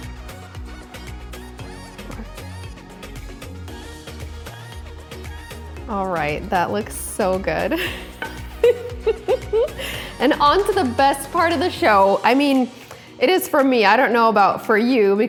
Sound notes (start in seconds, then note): 0.2 upbeat music; 7.8 laughing